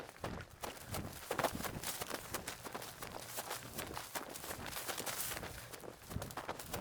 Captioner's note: running sounds on gravel